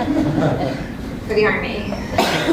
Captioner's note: laugh